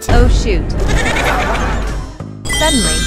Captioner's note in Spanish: Risas